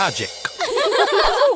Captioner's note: laughter